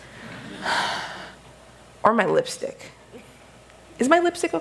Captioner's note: deep Sigh